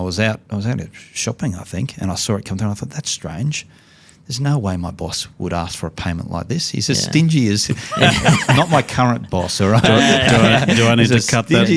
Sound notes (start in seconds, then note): 7.7 laughs; 11.5 all laughing